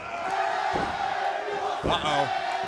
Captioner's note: fans chanting